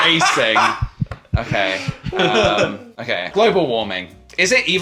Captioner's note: laughing